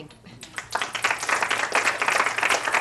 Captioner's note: applause